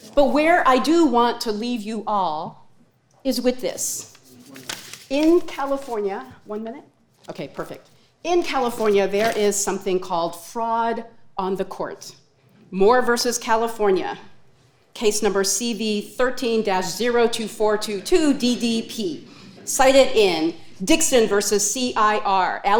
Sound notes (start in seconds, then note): 3.8 paper rustling